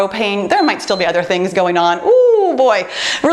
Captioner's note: timer beeps